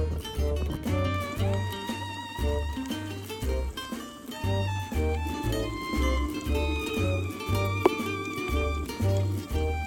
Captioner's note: laughs